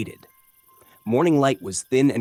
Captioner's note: pause